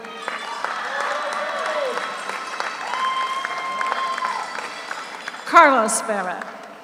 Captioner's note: audience cheers; audience applauds